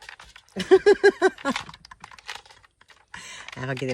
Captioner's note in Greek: γέλια